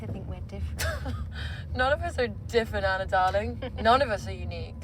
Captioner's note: laughs